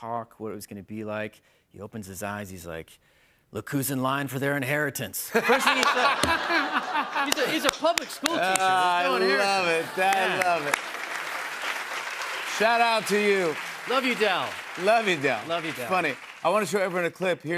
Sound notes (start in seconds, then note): 5.3 laughter; 11.2 applause